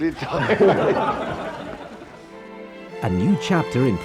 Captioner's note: laughs